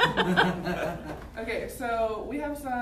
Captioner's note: laughter